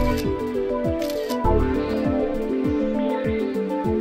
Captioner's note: camera snaps